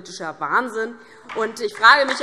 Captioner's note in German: Beifall DIE LINKE